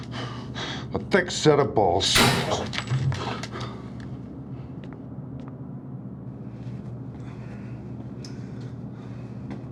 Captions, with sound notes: A thick set of balls. [gunshot]